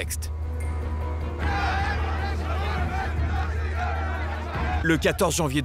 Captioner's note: shouts of demonstrators